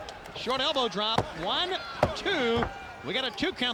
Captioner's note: hand pounding